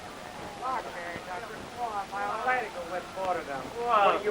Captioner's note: chattering